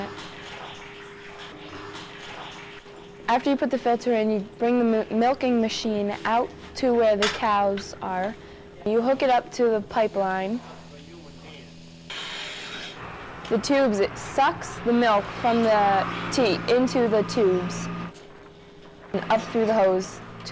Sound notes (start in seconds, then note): 0.0 tank filling up; 10.2 machine humming